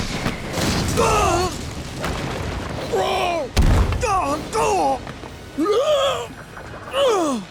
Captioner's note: grunting